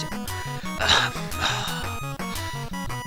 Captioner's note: sighs